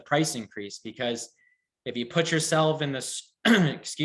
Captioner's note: clears throat